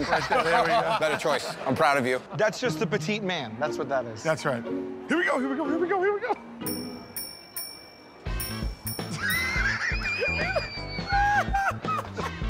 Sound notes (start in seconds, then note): 6.6 dinging; 9.1 laughter